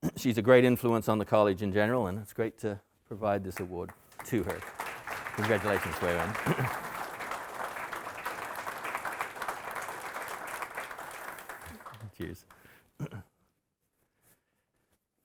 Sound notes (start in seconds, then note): 6.5 audience applauding